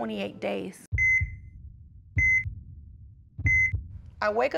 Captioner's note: monitor beeping